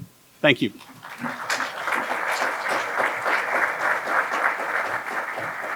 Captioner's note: applause